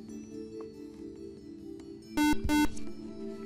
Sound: buzzer

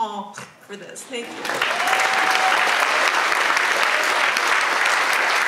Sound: audience applauds

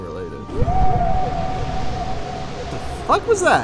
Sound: off-screen roar

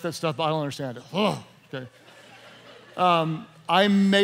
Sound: laughing

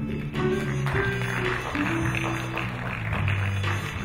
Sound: applauding

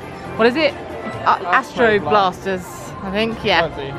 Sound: in Unison

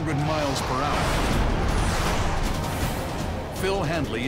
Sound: planes roaring

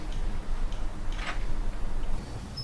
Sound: door open

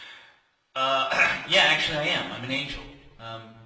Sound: clears throat

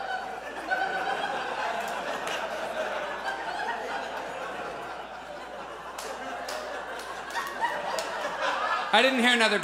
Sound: audience laughs

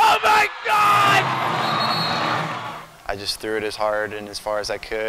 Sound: cheering

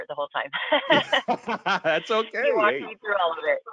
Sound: both laughing

